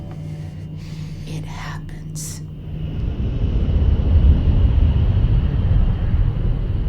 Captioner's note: airplane engine roaring